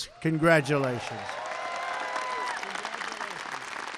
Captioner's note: applause